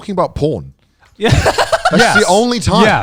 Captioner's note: cackling